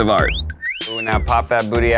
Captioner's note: person whistling